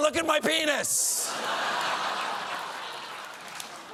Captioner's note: laughter